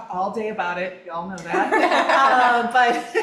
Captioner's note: all laughing